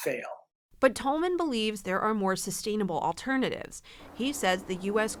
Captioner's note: voice-over